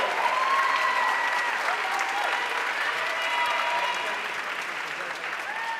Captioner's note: audience cheering and applauding